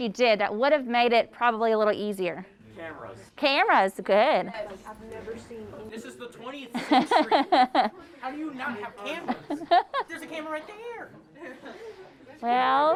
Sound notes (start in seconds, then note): 6.7 laughs